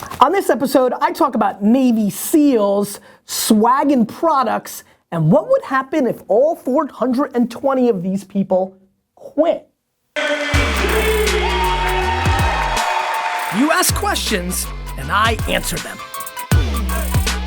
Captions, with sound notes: - On this episode I talk about Navy SEALs, swagging products and what would happen if all 420 of these people quit? (bass music) (cheering) You ask questions and I answer them.